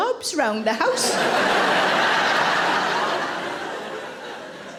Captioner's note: audience laughing